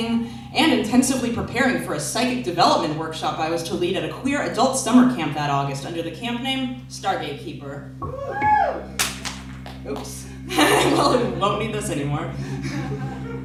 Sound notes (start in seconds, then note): 8.9 something hits the floor and rolls; 12.2 laughs; 12.4 laughter